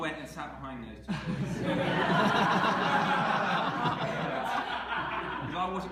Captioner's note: laughter